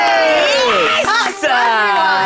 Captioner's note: players cheering and clapping